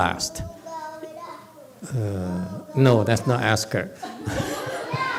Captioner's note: audience laughs